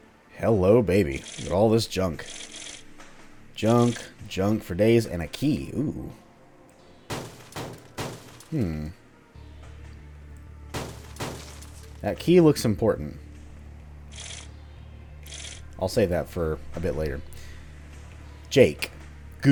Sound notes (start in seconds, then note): 7.2 smashy intensifies; 10.7 smash smash